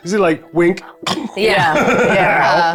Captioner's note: chuckling; snoring